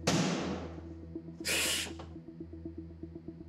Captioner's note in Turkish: Mehmet Ali ağlıyor